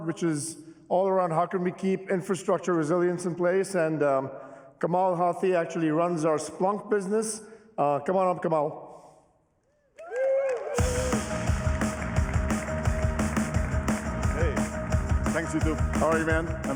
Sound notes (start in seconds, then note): 10.0 cheering, applause; 10.8 upbeat music